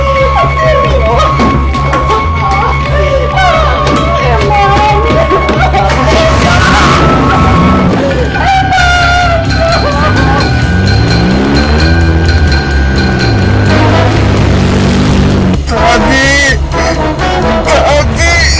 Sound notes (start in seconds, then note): 2.8 crying; 6.2 engine revving; 8.2 sobbing